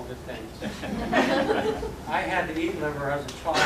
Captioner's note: laughter